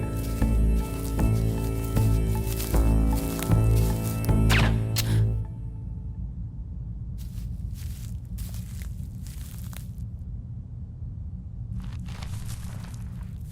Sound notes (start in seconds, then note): 4.2 Quinn gasps; 4.4 gun fires